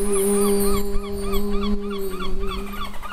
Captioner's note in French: chant